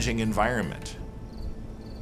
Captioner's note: crickets chirping